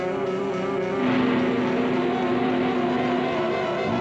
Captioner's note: suspenseful jazz music; car accelerates; suspenseful jazz music; tires squeal